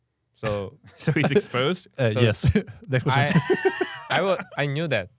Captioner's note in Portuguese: risos